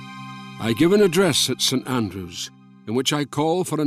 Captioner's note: Voz en off